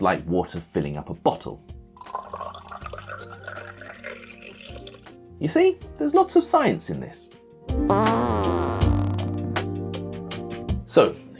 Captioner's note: water sound rising in pitch